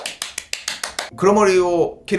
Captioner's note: applause